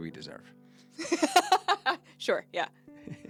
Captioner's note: laughing